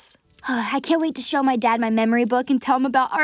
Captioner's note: sighs